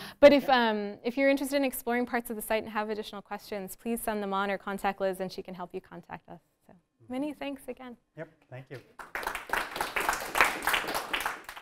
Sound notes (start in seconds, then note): 8.7 applause